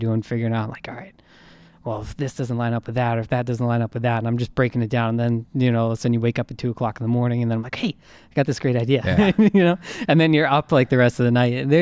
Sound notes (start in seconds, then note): 9.0 laughing